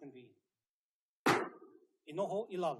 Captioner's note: gavel bangs once